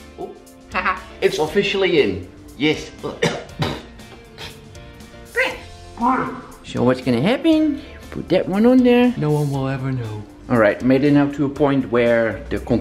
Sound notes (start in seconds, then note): 4.3 coughs on saw dust